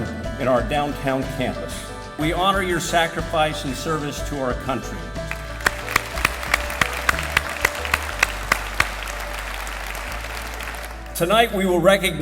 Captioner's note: applause